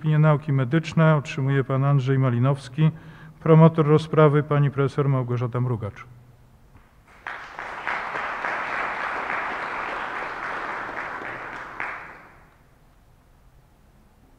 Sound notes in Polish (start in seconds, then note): 7.0 oklaski